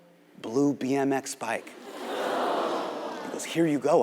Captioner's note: audience gasps